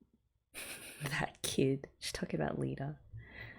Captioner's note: laughs